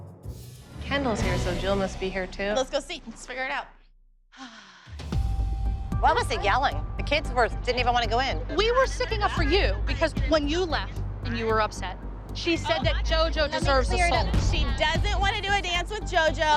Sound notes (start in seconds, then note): 4.3 sighs